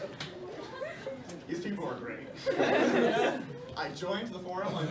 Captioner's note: laughter; laughter